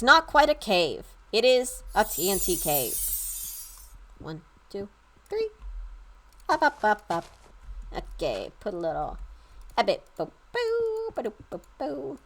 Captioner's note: chimes ring